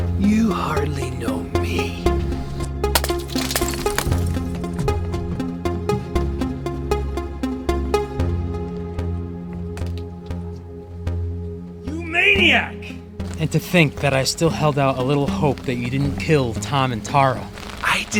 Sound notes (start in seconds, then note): 2.9 bottle shatters; 5.4 pensive synth music continues